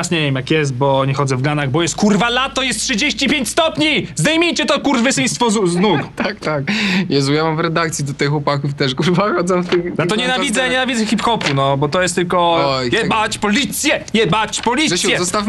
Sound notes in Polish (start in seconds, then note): 5.7 śmiech